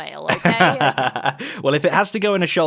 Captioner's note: laughs